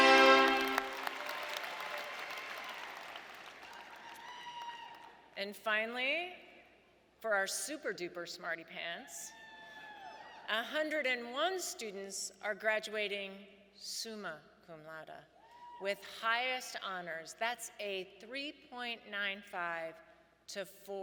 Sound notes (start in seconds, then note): 0.0 audience cheering and applauding